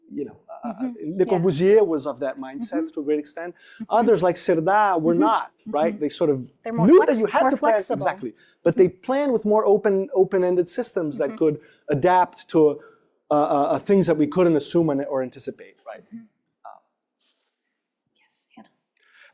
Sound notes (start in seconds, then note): 0.1 non-english speech